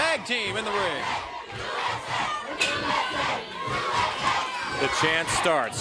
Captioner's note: crowd cheering